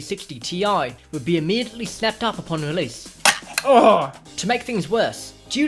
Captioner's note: snap